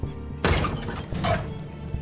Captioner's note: Door opening